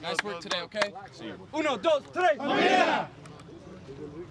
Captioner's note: Spanish